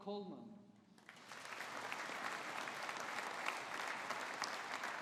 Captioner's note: audience applauding